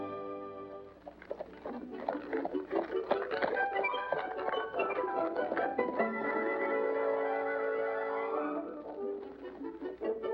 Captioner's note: romantic music; hooves trotting